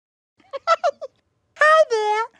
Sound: giggling

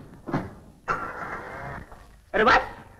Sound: car Engine Start

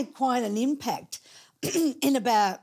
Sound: clearing throat

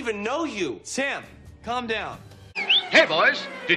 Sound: whistles

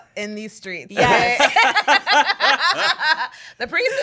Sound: everyone laughs

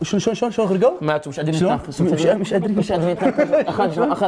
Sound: sarcastically

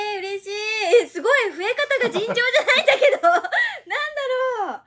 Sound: laughs

